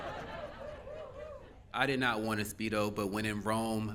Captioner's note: laughing